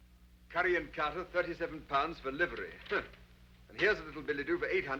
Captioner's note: scoffs